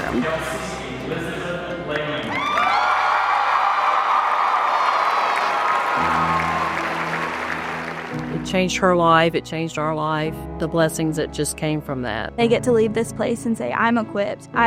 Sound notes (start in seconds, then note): 1.8 people cheering